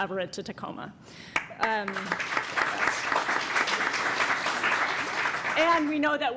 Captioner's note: applause